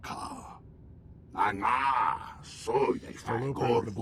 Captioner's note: speaking foreign language